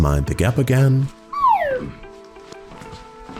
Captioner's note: grunts